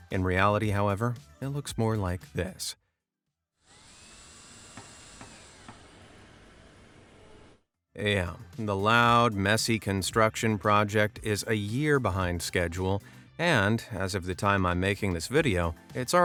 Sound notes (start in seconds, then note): 3.6 power tools whirring; 4.0 hammers tapping